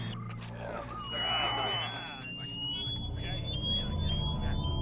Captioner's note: shrill whistle